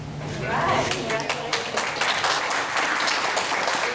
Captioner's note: applause